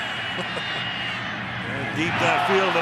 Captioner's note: laughs